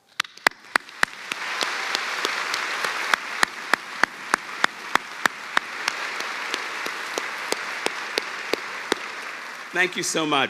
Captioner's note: cheers and applause